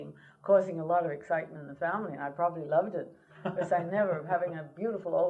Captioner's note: laughter